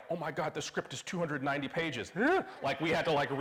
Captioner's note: gasps